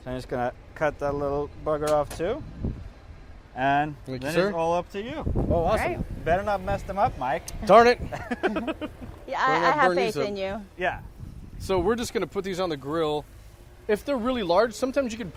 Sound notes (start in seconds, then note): 7.9 laughs